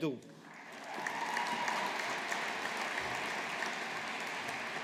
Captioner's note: audience applauding